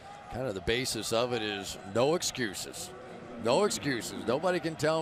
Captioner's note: none